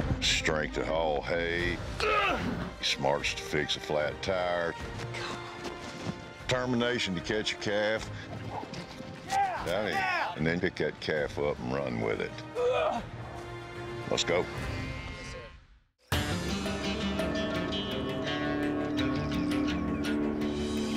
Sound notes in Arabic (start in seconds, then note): 8.3 ضربات حوافر